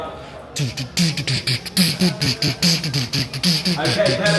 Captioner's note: imitates workout music